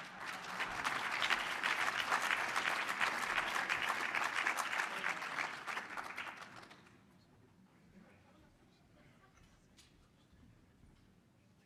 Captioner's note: applause